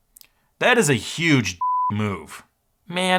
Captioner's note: beep